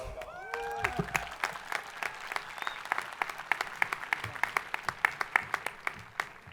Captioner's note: hands clapping; people cheering